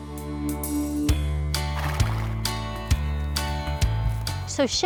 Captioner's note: country guitar strums; horses snort